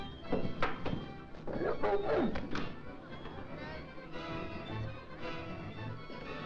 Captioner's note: lion snarling; whip thudding